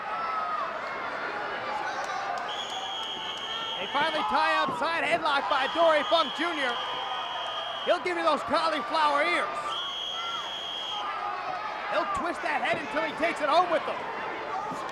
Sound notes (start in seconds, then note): 2.5 whistle trills